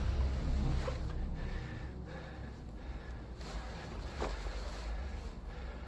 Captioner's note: breathing heavily